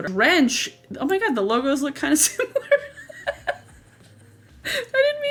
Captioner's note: laughs